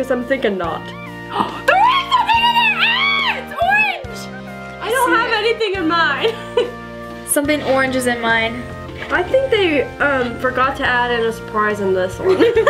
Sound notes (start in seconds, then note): 3.6 screams